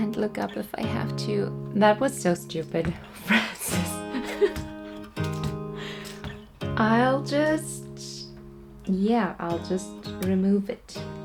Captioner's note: laughs